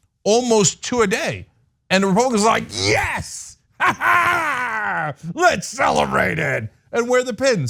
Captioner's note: laugh